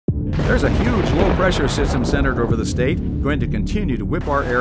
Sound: radio weather report

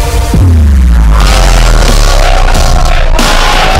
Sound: hooting

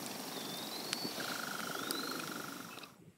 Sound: crickets, cicadas, insects

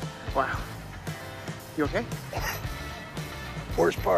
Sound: coughs

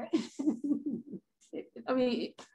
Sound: laughs

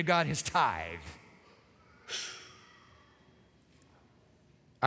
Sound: inhales sharply

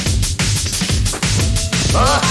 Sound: bushes rustling; Pumpkin Jack laughs

